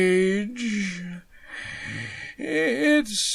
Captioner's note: deep inhale